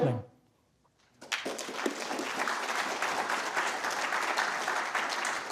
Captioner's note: applause